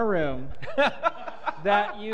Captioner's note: laughter